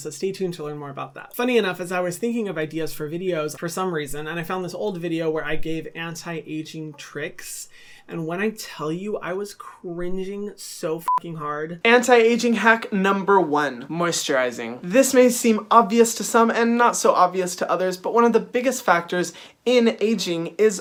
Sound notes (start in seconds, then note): 11.0 beep